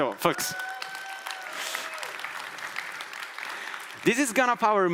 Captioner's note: audience applauding